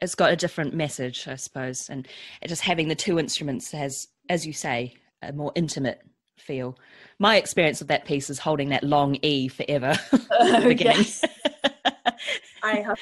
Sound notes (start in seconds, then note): 10.2 laughs